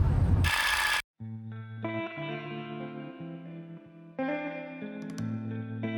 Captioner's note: reel whirring; soft music